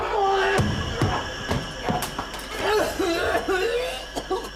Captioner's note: Mr Dorrington choking